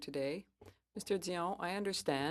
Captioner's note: speaking french